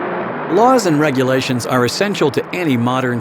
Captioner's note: voiceover